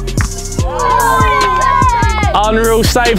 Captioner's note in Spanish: vítores de la multitud